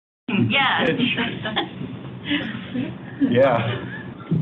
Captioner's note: crowd laughing